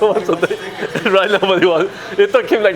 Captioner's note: giggles